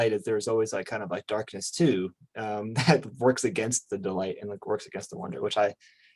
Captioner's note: chuckles